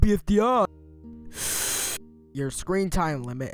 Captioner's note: seethes